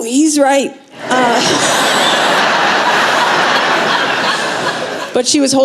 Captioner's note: laughter